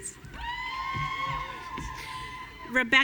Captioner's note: audience cheering